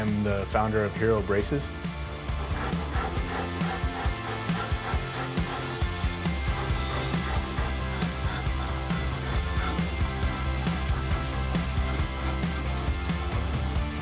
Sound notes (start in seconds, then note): 2.3 tool scraping; 5.2 upbeat music